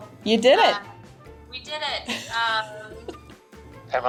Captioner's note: laughs